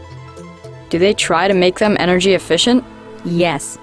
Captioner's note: voiceover